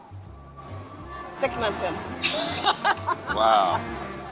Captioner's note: laughing